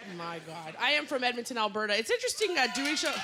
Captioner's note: cheering